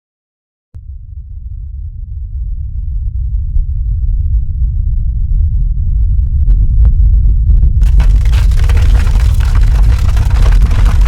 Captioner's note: ground rumbles, animals run, water splashes; loose rock falls